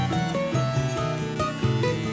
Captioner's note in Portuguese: som da serra